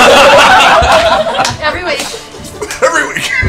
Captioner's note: laughter